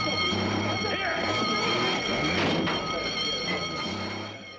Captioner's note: engine Revving; alarm Continues Ringing